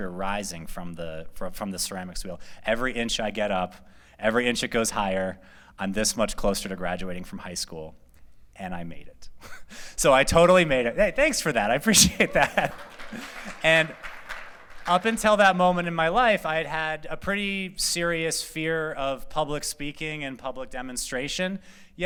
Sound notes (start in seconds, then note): 12.0 laughter; 12.0 applause